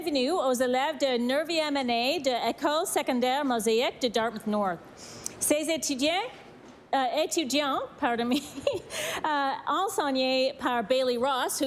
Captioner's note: speaking french